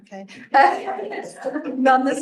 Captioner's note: all chuckling